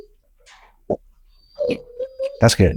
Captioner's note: dog whimpering